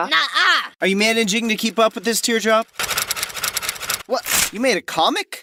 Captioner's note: typing sounds